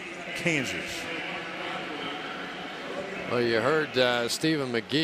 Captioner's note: pa announcement